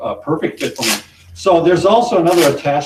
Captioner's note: velcro ripping